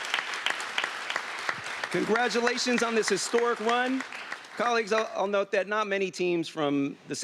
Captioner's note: applause